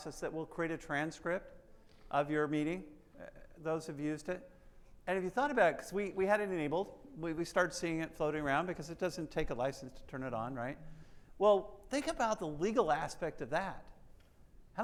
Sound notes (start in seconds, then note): none